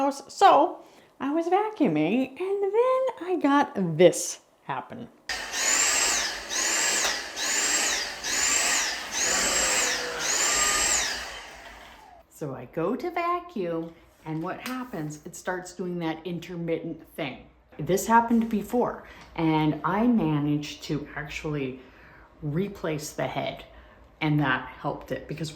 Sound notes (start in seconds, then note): 5.3 vacuum coughing